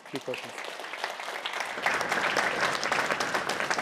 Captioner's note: applause